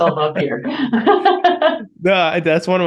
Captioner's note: both laughing